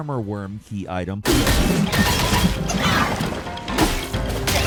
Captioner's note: sword clanking